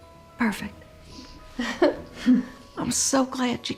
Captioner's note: chuckles